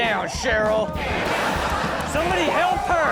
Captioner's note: audience laughs